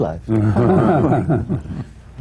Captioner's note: laughter